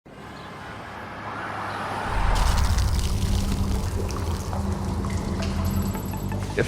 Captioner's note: city sounds